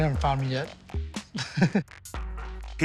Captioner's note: chuckles